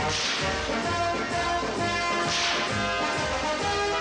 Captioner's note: whip cracking